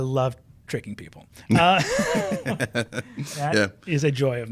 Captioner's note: chuckling